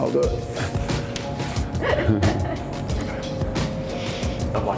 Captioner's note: laughter